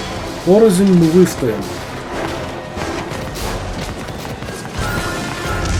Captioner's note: gunfire & explosions